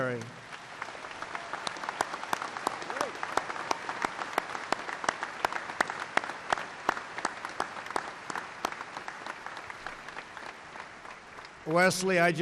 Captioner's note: applause